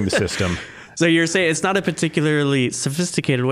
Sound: chuckling

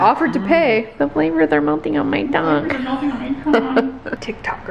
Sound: laughs

